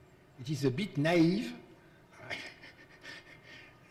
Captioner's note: laughs